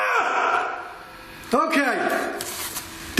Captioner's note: screams